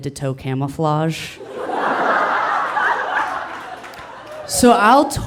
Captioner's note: audience laughing